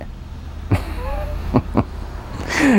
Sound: laughing

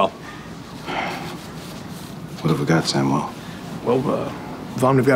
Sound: sighs

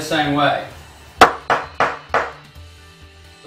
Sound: hard Knocks on the table

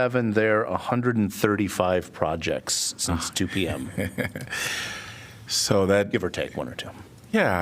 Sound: laughter

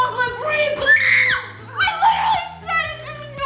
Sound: screams

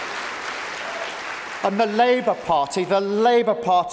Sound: applause

